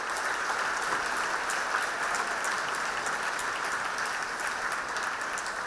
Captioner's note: audience applauding